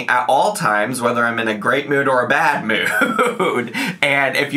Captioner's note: laughs